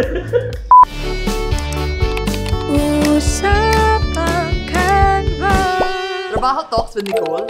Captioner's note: laughter; clicking